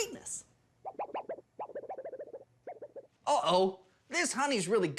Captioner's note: warbling noise